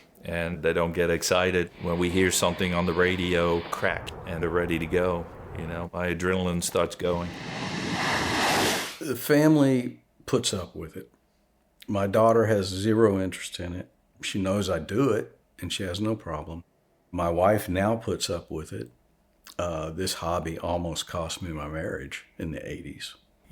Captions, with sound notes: And they don't get excited when we hear something on the radio "crack" and they're ready to go. You know, my adrenaline starts going! [jet engine] The family puts up with it. My daughter has zero interest in it. She knows I do it, and she has no problem. My wife, now, puts up with it. Uh, this hobby almost cost me my marriage in the '80s.